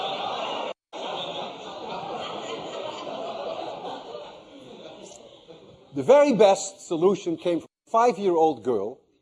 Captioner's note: laughter